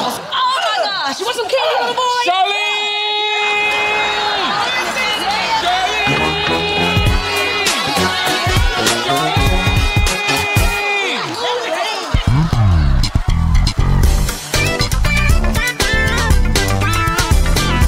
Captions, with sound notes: Oh. My gosh. She want. [screams] [funky music]